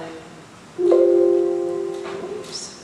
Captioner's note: computer chimes